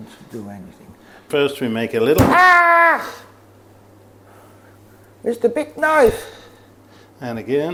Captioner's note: screams